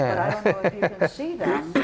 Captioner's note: chuckles